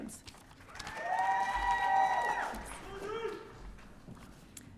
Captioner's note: audience cheering